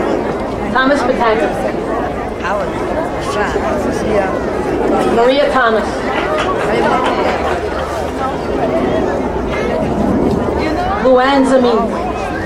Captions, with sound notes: Thomas Pataki. Maria Thomas. (crowd applauding) Luanne Zamine.